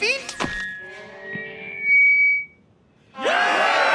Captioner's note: mic feedback; soldiers cheering